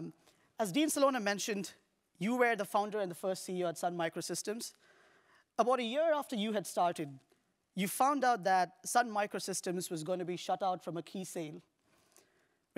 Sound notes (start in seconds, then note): none